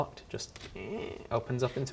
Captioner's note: creak